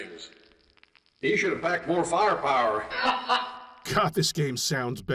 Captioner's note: strangely mixed laugh